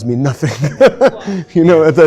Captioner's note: laughing